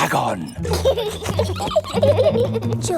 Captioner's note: both giggling